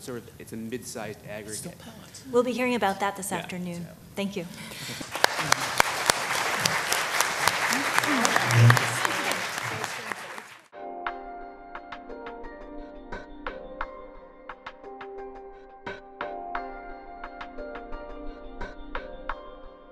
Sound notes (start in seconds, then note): 4.9 clapping